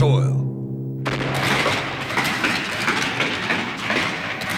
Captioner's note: rifles Fire